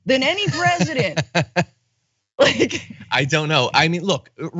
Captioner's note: laugh